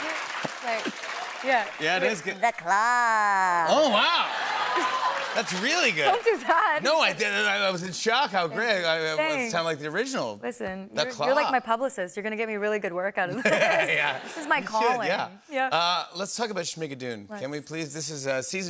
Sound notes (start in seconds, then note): 3.8 laughter, cheers, applause